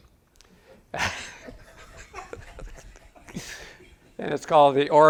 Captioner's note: audience chuckles